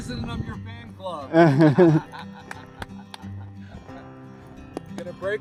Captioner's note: laughter